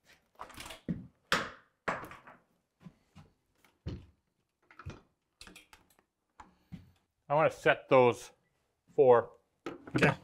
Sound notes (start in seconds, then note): 1.4 wood thumping